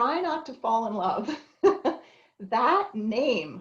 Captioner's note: chuckles